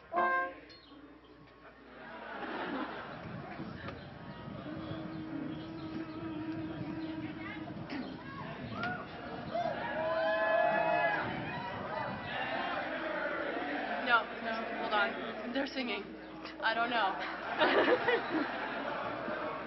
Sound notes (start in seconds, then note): 10.6 cheering